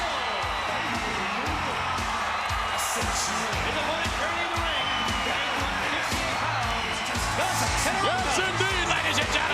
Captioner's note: applause